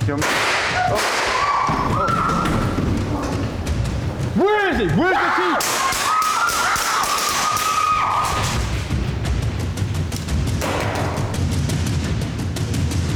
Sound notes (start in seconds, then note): 0.0 intense music; 0.2 gun fires; 0.7 people scream; 5.7 gun fires